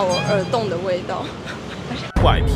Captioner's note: snickering